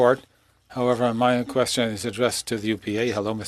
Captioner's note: speaking french